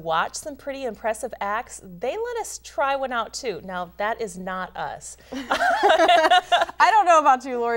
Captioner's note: laughing